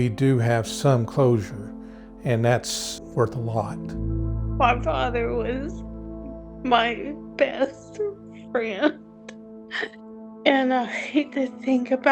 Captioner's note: sobbing